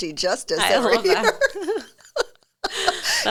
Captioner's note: laughs; chuckles